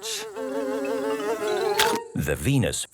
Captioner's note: buzzing; chomps